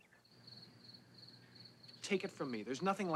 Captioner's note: crickets chirping